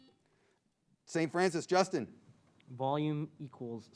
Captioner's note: buzzer beeps